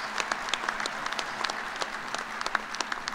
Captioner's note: applause